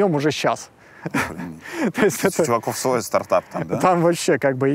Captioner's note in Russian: смеётся